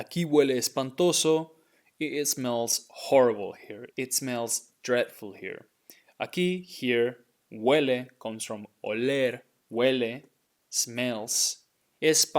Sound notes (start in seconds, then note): 0.1 speaking in Spanish; 6.4 speaking in Spanish